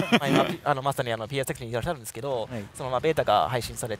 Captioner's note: laughter